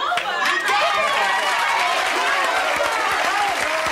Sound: applause

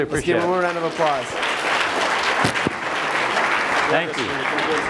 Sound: applause

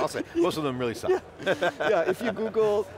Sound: laughs

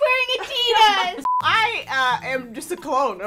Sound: laughing; beep

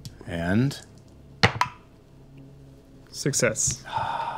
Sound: dice rolling

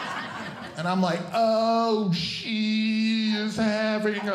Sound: audience Laughing; speaking slowly

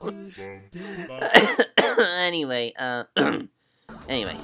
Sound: cough

